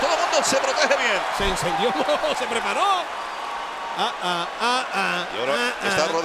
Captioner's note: laugh